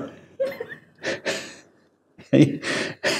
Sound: laughing

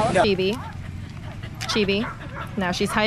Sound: dog panting

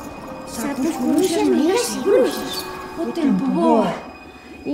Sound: several voices in unison

